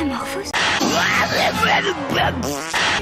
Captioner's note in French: ♫ Bruitages de la série "Taz-Mania"